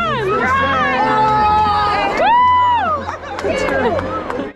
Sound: all screaming and cheering

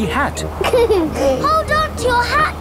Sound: giggles

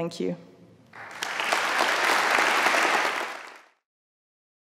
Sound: audience applauds

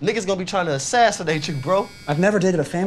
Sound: phone vibrates

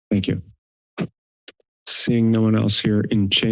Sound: silence

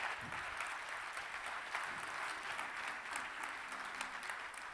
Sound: audience clapping

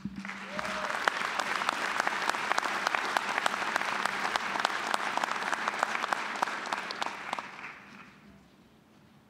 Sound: applause

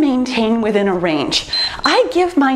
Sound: timer beeps

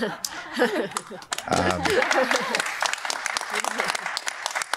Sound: applause

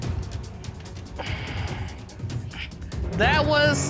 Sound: sighs

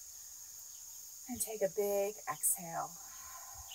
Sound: exhales

